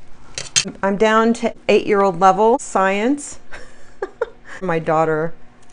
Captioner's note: laughs